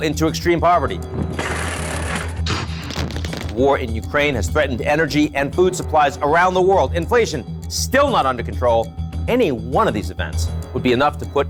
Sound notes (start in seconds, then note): 1.1 metal crackling; 2.4 gun smacking